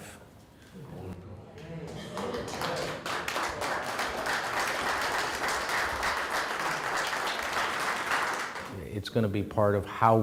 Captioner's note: applause